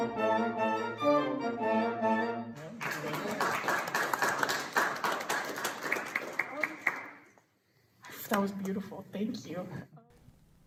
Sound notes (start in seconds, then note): 2.5 students clapping